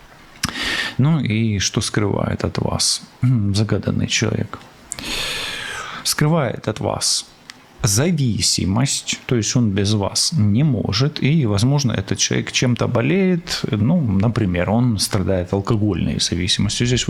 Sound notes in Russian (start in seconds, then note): 4.9 вздыхает; 4.9 тяжело вздыхает